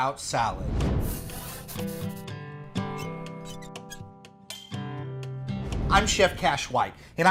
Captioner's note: wind rushing; warm guitar music